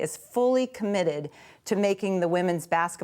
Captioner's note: none